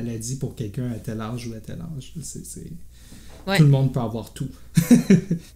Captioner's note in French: rires